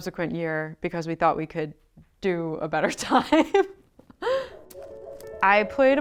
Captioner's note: laughs